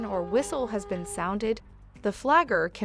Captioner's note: car horn